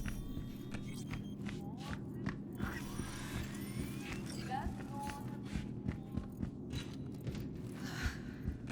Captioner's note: footsteps